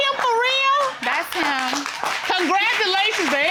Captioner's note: audience applauding